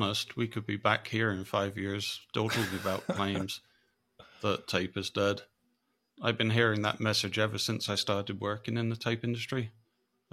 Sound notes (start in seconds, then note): 2.4 laughs